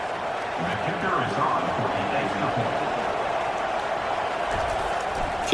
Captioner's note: crowd cheering